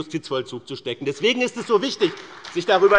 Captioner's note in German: Beifall bei dem BÜNDNIS 90/DIE GRÜNEN und der CDU